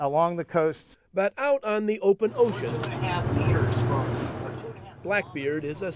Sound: voiceover

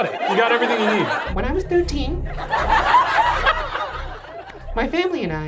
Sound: audience laughs

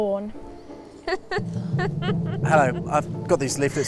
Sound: Bellatrix laughing

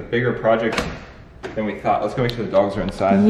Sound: door locking

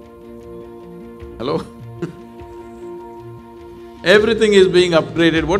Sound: laughs

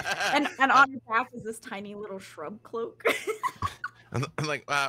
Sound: laughs

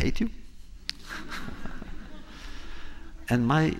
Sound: laughter

